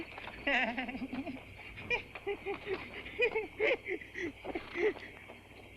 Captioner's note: nervous giggling